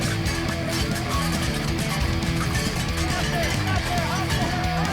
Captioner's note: people chattering